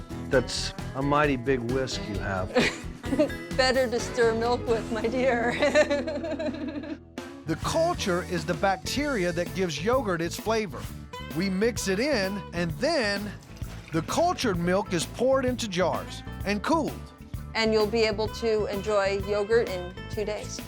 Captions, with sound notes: THAT'S A MIGHTY BIG WHISK YOU HAVE. [CHUCKLING] BETTER TO STIR MILK WITH, MY DEAR. THE CULTURE IS THE BACTERIA THAT GIVES YOGURT ITS FLAVOR. WE MIX IT IN AND THEN... THE CULTURED MILK IS POURED INTO JARS AND COOLED. AND YOU'LL BE ABLE TO ENJOY YOGURT IN TWO DAYS.